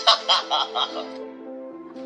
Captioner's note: laughter